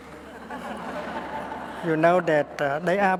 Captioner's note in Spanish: Risas